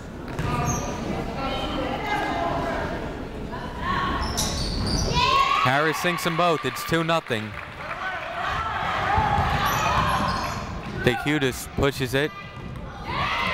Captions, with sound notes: (people talking in the crowd) Harris sinks 'em both. It's two nothing. (people cheering in the crowd) D'Chiutiis pushes it.